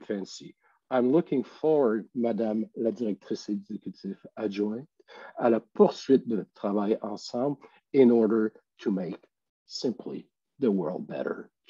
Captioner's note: French language